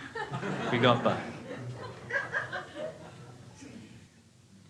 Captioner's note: crowd laughing